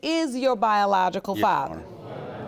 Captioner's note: audience murmuring